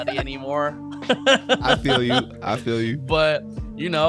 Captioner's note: laughing